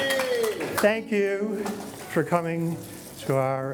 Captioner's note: cheering